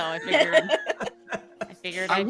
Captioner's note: all laughing